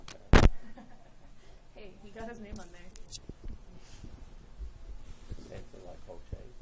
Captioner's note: laughs